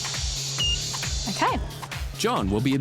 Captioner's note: beep